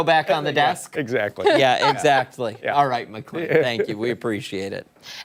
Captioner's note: laughter